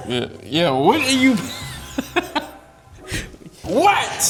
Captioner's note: laughing